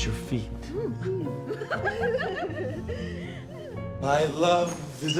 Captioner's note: girls giggling